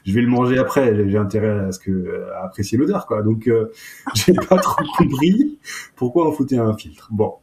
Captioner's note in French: rires